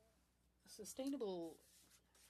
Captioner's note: speaking French